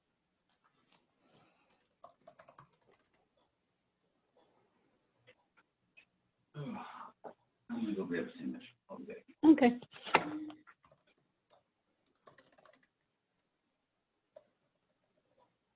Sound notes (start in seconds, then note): 6.6 man sighs; 12.0 keyboard typing